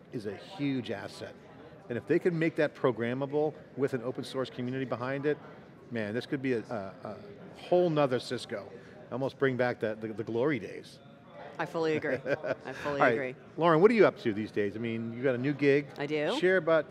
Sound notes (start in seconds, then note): 12.0 laughing